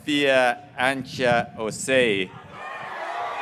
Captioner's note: graduates cheering